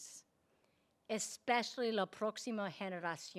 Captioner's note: speaking in Spanish